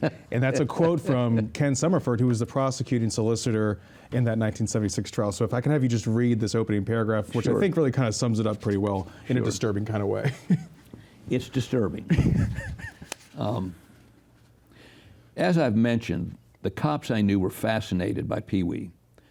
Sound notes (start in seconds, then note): 12.0 laughs